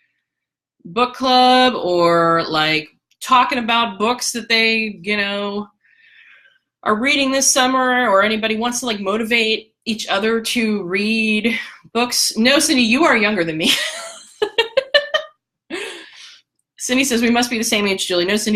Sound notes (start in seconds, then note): 13.7 laughter